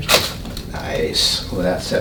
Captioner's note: loud cracking